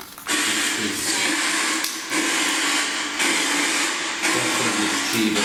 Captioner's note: portal makes racketing noise